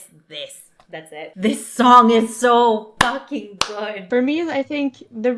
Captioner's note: clap